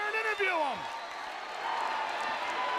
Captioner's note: crowd chatter